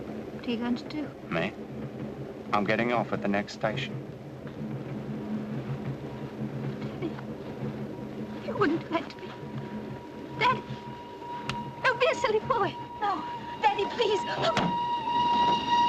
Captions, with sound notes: What are you going to do? Me? I'm getting off at the next station. Danny. You wouldn't hurt me. Danny, don't be a silly boy. No, Danny, please! -Oh! -[hand thuds]